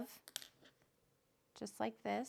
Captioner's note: needle clinks